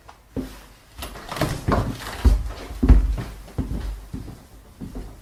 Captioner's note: door clicks